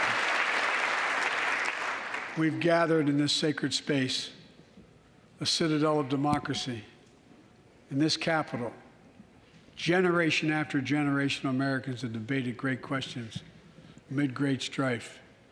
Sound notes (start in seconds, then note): 1.9 applause